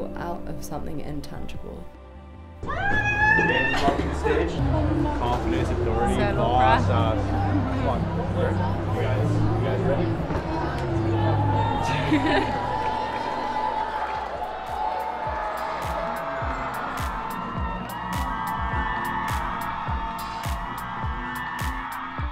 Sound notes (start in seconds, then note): 5.2 Suki & friend chatting indistinctly; 11.9 Suki laughs; 14.5 audience cheering